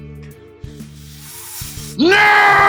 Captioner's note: deep inhale